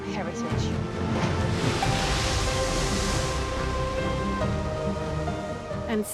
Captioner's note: bright upbeat music; waves raging